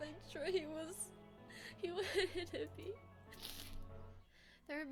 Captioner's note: sniff